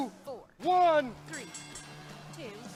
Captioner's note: bell ringing